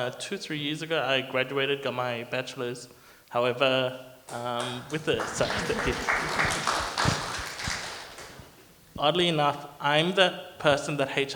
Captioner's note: clapping